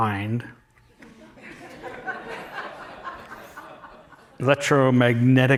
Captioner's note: laughter